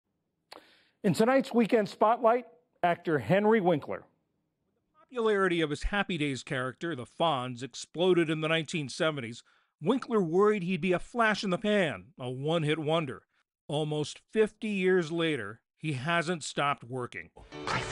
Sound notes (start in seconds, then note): 5.2 voice-over